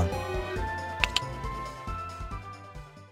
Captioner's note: click